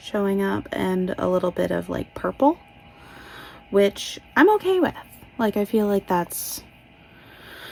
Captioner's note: inhales